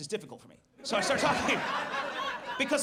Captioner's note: audience laughs